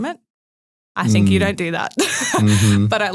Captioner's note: laughs